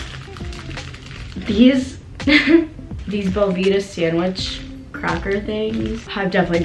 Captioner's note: laughs